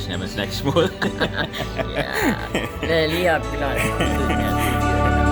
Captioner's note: laughing